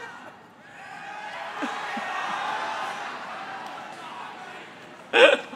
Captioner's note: crowd shouts